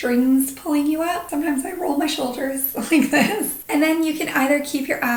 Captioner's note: chuckles